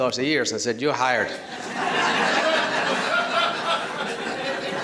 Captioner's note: laughter